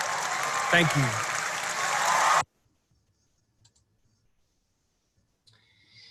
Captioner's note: applause